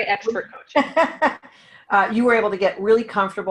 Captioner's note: laughing